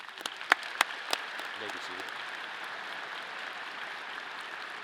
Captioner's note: audience applause